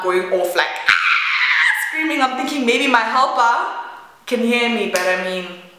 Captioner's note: screaming